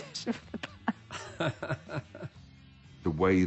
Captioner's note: laughs